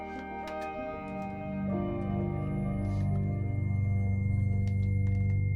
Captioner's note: piercing high-pitched tone over ominous electronic music